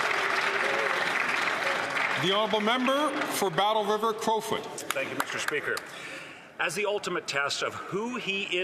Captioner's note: some Applause